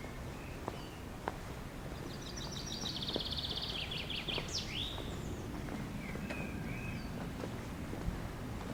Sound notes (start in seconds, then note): 2.0 birds Chirping